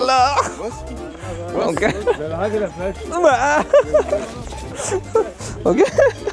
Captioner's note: laugh